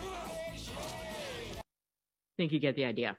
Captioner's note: characters laughing; upbeat music; character grunting